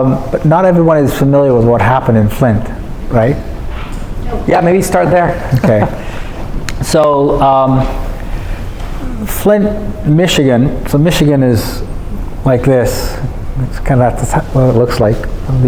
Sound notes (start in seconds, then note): 4.9 laughing